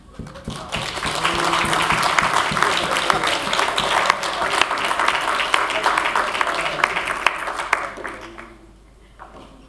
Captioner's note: applause